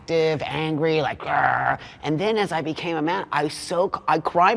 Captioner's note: roars